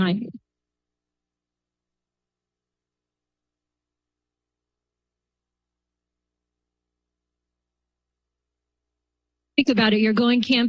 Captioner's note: silence